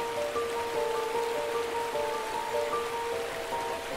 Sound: water rushing

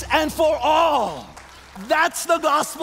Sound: congregation applauds

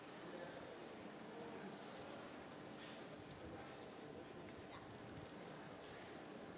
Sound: audience chattering indistinctly

